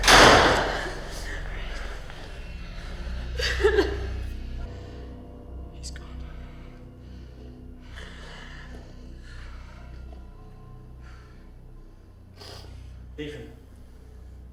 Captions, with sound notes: (door slamming) (Elizabeth crying) - He's gone. Leave him.